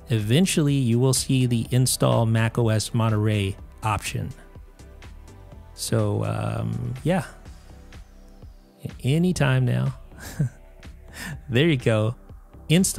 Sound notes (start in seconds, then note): 10.2 chuckles